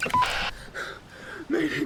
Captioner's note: handheld radio beeping